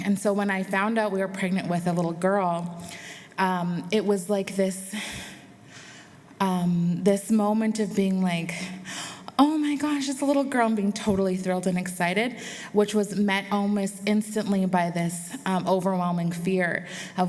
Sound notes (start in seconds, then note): none